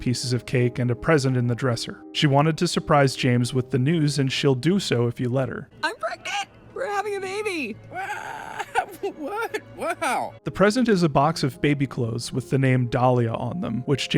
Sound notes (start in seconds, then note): 7.9 weasel sounds